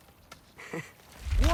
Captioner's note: laugh